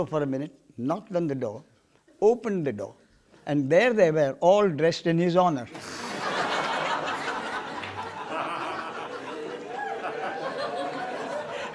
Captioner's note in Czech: smích